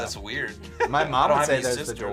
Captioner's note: laughs